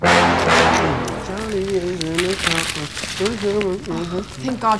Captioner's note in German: summt